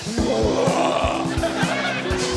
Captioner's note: groans